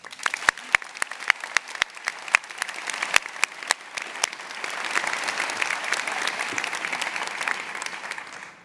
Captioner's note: applause